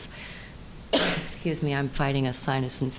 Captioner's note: coughing